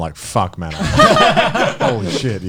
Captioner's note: laughs